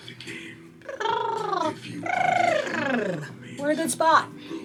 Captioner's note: trilling